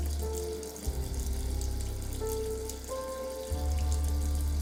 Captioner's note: poignant music continuing to play; tap still running; poignant music continuing to play